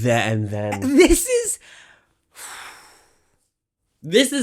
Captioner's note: phew